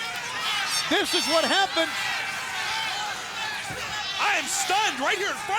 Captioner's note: crowd cheering